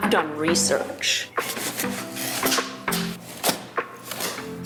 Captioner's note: knife cuts